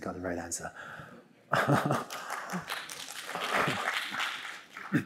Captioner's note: applause